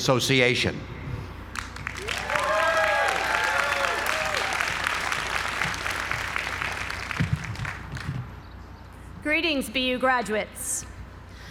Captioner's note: applause